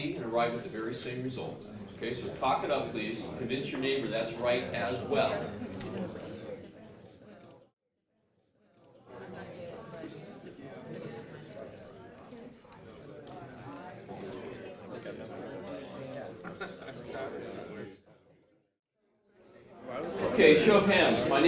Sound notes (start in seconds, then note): 9.2 pause